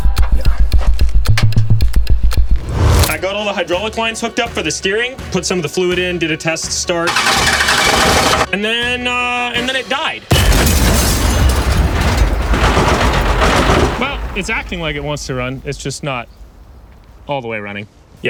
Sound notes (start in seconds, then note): 0.1 dramatic clock ticking; 7.0 engine sputters; 10.3 loud explosion